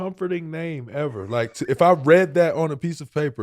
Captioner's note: Rel laughing